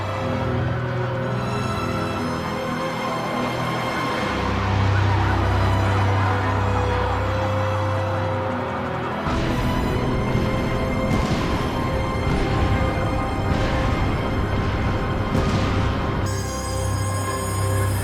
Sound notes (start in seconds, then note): 0.1 dramatic music; 13.7 explosions